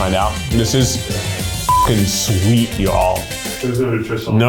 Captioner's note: beep